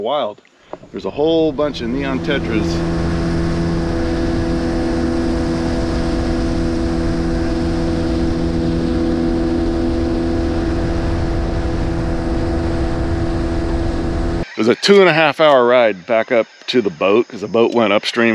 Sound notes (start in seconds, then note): 3.8 boat engine running